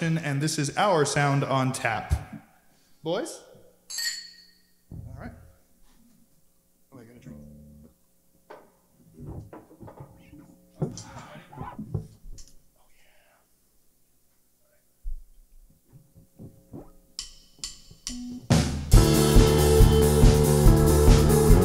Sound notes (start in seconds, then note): 3.8 glasses clinking